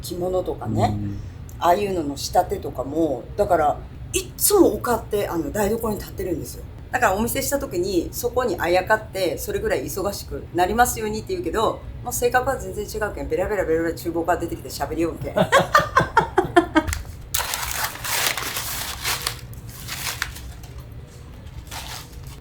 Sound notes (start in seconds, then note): 15.2 laughs